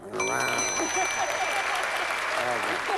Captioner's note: laughs